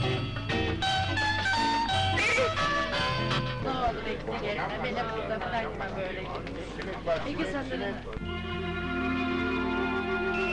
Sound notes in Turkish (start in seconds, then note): 5.6 Tren garı ortam gürültüsü, mırıltılar; 8.2 Fonda duygusal, özgün film müziği başlar